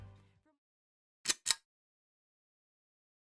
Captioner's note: click